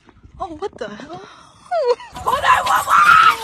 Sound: sqawk/screech/snort/concerned dying sound

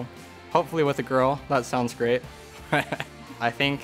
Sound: laughs

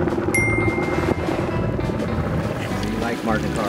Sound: upbeat music; bell ringing

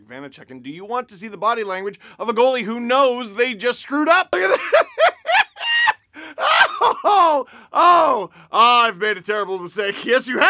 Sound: laughter

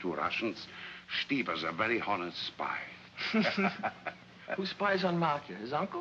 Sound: laughs

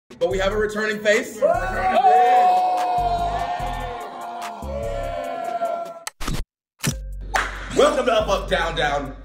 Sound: applause

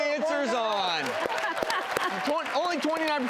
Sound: cheering and clapping

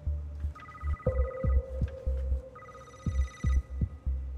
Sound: phone rings

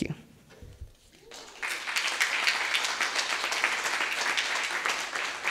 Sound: audience applauding

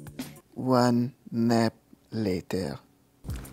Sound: in a French accent

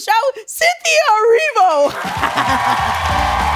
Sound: laughing; cheering and applause

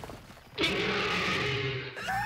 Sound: roar!

